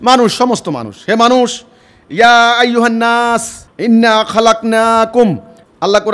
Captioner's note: Arabic